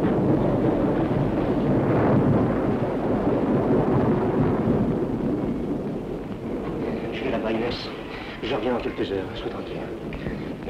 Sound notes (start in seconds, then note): 0.5 thunderstorm